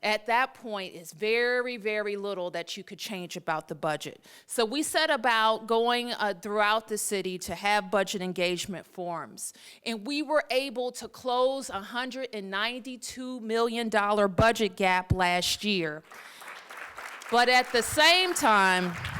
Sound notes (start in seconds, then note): 16.0 applause